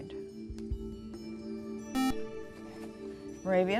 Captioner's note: beep